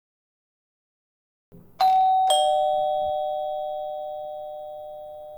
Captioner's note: door Bell